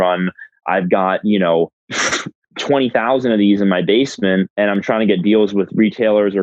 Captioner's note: laughs